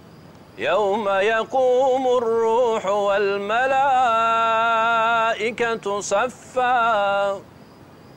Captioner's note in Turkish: Arapça kuran okunuyor